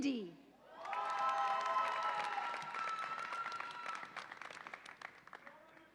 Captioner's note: audience applauds and cheers